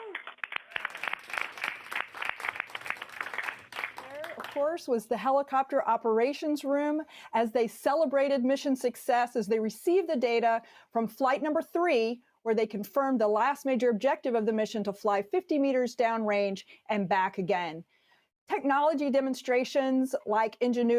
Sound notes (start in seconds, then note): 4.8 applauding